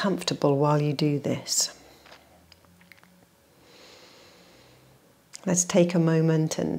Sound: exhales and inhales

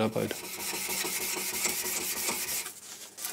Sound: grinding

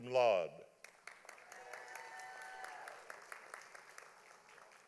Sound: audience applauding

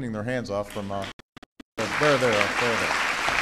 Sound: applause

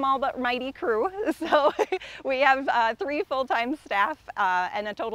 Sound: laughs

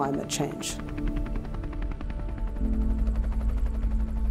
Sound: helicopter whirring

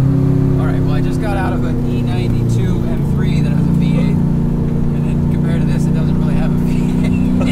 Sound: laughs

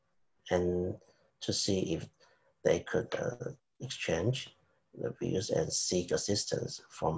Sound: speaking faintly

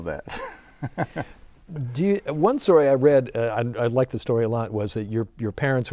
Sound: laughing

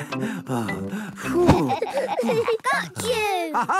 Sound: all laughing; panting

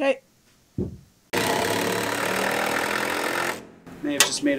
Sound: drilling

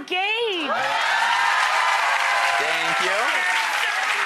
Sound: audience applause

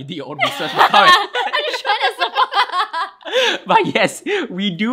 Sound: both laugh

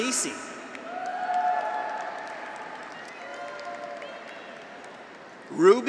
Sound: graduates cheer; audience applauds

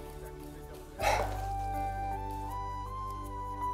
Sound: chuckles

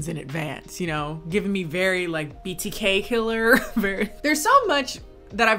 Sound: laughs

